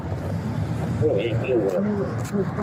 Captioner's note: radio chatter